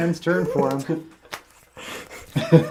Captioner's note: all laugh